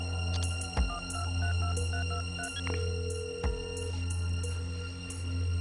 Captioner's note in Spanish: Sonido al marcar